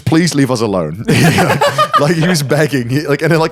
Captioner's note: all laughing